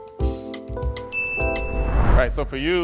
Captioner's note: ding